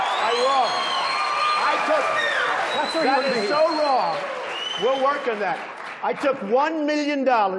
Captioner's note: applause